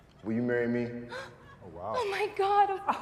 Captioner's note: gasps